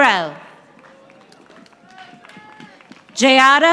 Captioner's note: audience applauding